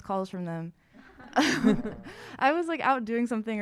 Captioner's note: audience laughing